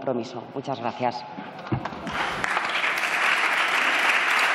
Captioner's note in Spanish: Aplausos